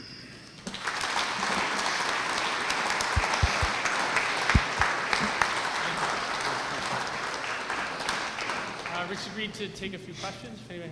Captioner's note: applause